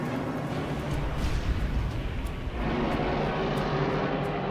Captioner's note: plane crashes